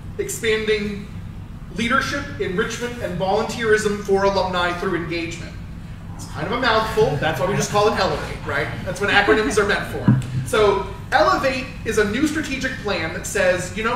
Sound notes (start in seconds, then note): 6.8 crowd laughs